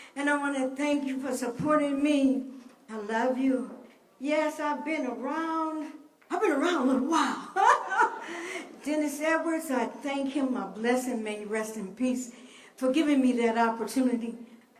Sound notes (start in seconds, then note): 7.5 laughs